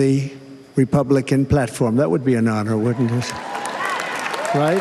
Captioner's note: applause